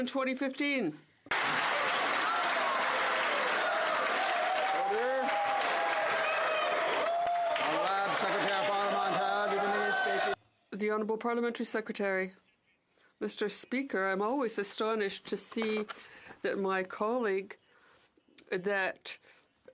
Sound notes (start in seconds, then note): 5.4 some Applause